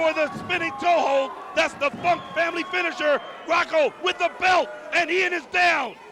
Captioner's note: crowd chatter